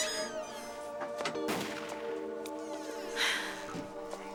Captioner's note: door Closes